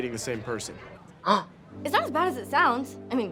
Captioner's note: Trixie gasps